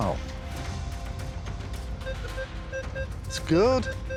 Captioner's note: metal detector beeping